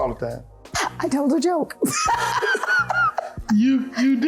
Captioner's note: laughing